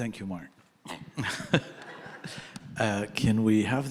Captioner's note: all laughing